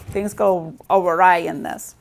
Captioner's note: none